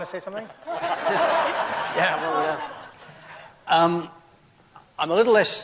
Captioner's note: crowd laughter